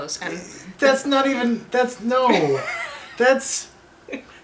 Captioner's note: laughter